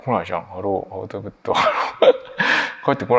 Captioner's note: chuckles